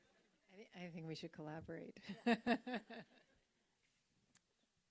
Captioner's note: laughs